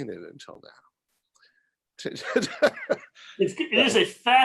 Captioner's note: laughing